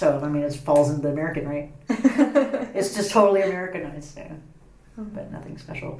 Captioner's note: laugh